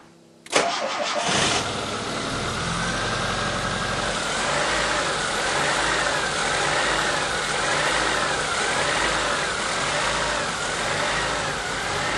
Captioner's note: unstable sound of engine operation is heard